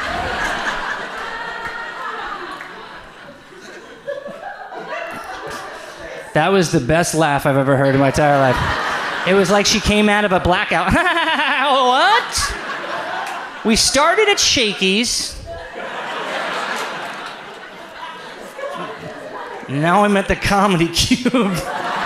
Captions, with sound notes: (audience laughs) That was the best laugh I've ever heard in my entire life. It was like she came out of a blackout. (laughs) "What?" We started at Shakey's. (audience laughs) And now I'm at the Comedy Cube.